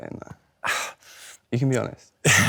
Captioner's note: Nicholas scoffs